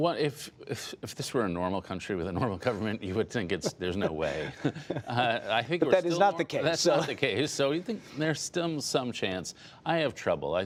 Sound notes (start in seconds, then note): 6.5 laughter